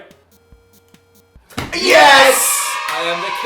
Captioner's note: happy children yelling